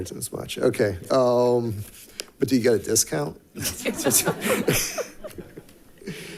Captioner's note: laughs